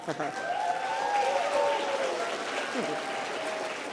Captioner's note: applause